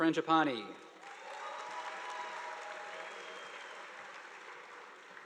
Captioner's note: audience applauding